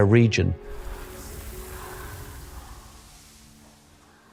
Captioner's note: earth whooshing